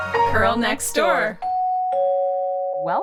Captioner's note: sound of doorbell